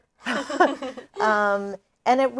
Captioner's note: both laugh